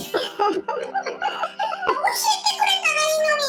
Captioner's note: laugh